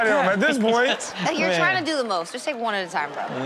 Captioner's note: audience laughs